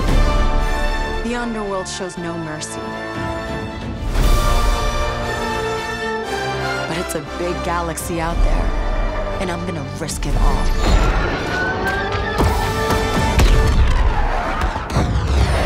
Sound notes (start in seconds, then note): 11.9 lasers firing; 12.2 explosions